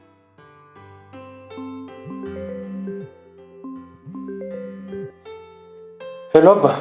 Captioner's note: phone rings